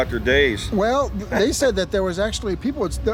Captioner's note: laughs